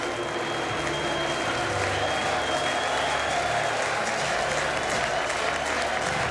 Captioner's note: members booing; members cheering